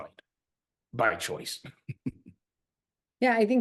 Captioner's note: laughs